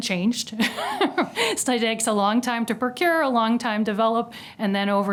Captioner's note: laugh